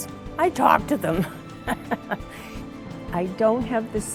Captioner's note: laughs